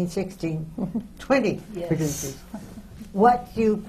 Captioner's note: chuckles